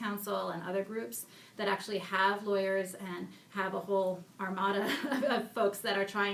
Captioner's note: laughs